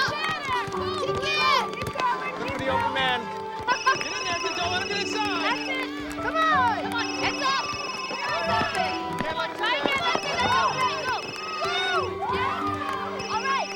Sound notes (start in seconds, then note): 3.7 cell phone ringing; 6.8 ringing continues